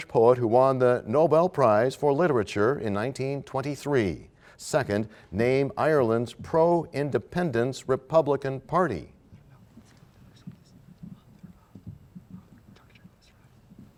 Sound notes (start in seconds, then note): none